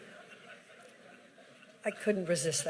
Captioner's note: laughter